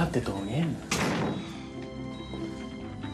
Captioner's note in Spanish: portazo